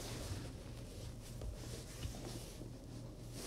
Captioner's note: cloth wiping